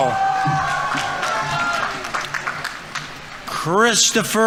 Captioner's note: audience members cheering; audience applauding